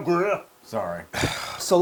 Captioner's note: laugh